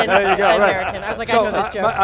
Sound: all laughing

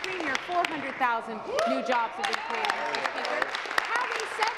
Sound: applause

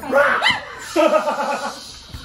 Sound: shouts; shrieks; laughing

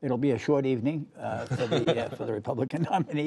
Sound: laughter

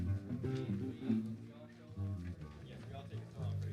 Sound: chatter

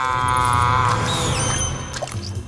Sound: bats screeching

